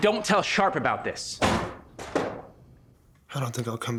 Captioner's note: door bangs